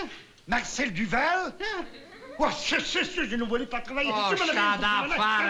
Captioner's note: non-english speech